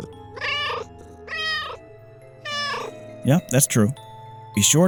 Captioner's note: meow, meow